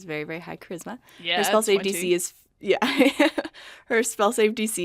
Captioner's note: laughs